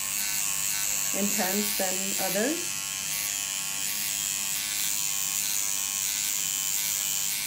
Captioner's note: machine buzzing